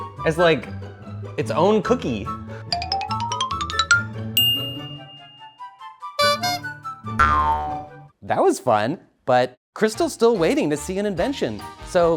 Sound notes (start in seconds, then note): 4.4 bell rings; 6.1 clown horn honks